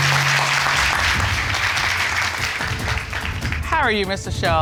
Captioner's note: courtroom applauding